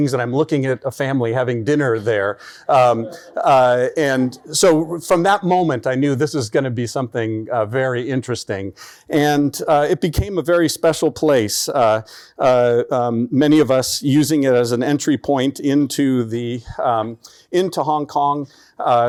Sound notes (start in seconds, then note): 2.7 chuckling